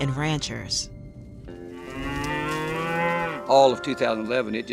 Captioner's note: cow moos